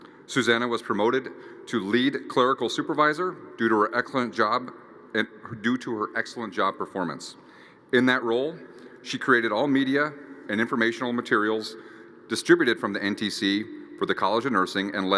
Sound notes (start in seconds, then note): none